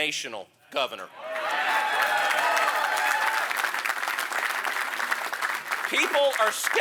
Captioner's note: applause